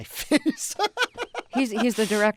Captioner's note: laughter